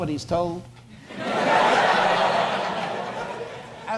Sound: audience laughs

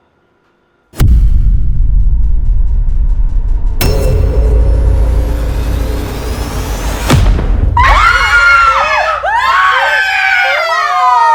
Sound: scream

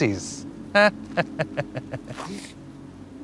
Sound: mocking laughter

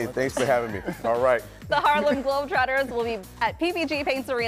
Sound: laughter

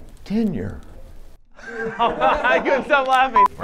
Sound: laughter

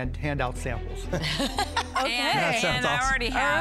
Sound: laughs

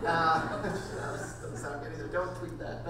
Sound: laughing

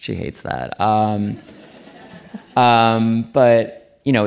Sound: audience laughing

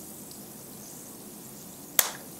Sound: pop

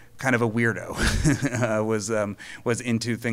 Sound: laughing

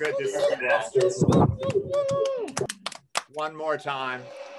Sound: cheering

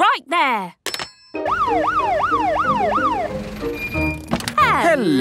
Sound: siren sounding

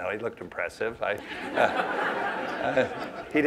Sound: laughter

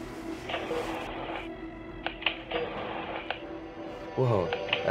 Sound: skateboard scraping against concrete

